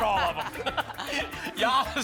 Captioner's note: laughter